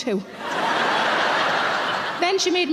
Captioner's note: audience laughing